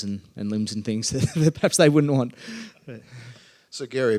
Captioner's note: laughs